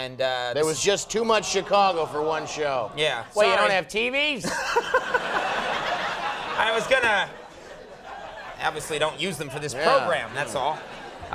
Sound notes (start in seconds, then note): 5.4 laughs